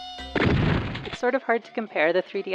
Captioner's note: shotgun blast; lightly distorted